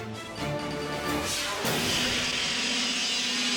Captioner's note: dramatic music; screen exploding; cycle whizzing; edgy dramatic music